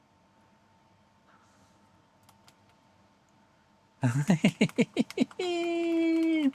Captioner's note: laughter